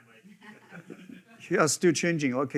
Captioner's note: attendees laughing